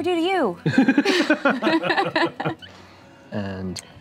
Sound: laughing

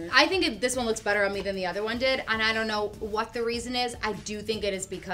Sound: none

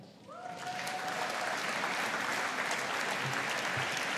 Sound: audience applauding

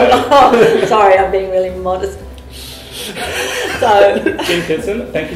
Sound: laughter

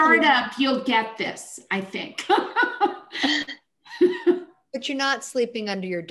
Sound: chuckles

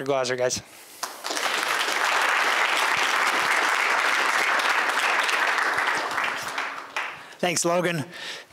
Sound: applause

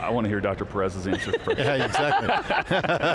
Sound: laughing

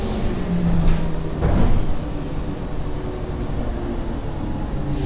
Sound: bus braking

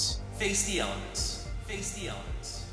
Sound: echoes

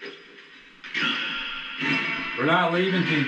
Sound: radio noise echoing

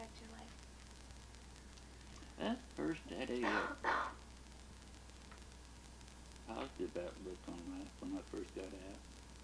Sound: coughs

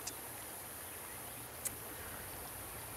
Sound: silence and river trickling nearby

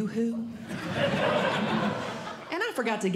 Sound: audience Laughing

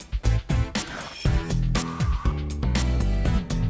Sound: none

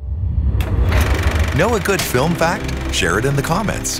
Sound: film projector whirring

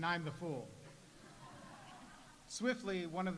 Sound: audience laughs

